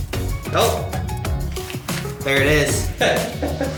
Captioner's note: laughs